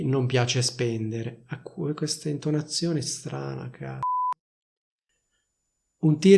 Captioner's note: beep